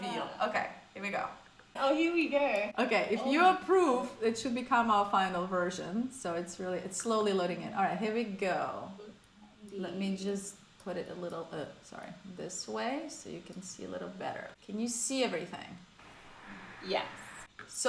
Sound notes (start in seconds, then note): none